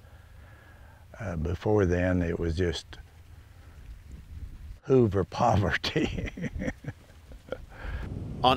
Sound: laughs

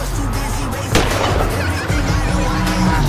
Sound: gunfire

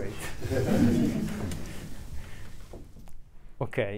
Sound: group laughing

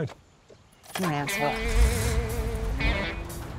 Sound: truck engine starts

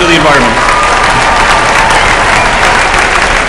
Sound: applause

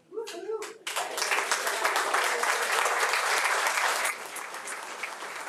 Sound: audience applauding

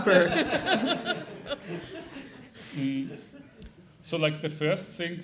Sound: laughing

